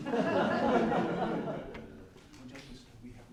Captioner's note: laughter